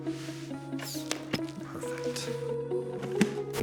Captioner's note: flash pops